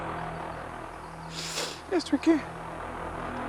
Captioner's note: Tom sniffles